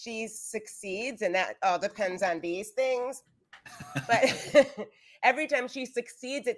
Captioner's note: actors giggling